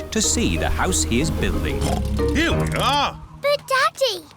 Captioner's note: oinks